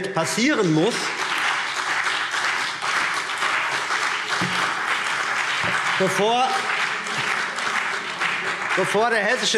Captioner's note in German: Beifall CDU und BÜNDNIS 90/DIE GRÜNEN